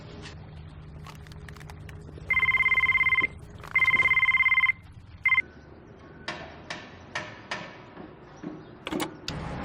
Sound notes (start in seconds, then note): 2.2 mobile ringing; 5.6 construction noises